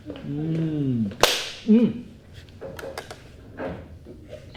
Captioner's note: chef claps